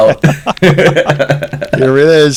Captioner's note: laughter